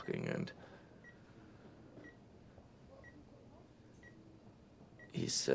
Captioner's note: monitors beeping